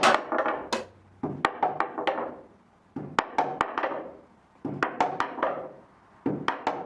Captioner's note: hammering rhythm like music